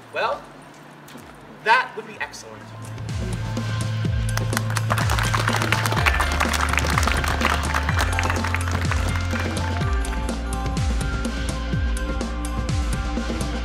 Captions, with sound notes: well, that would be excellent. (upbeat music) (audience clapping)